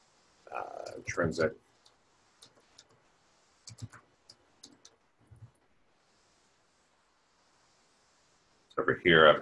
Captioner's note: typing Sounds